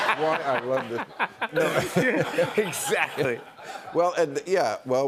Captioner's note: laughs